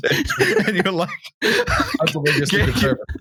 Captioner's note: laughter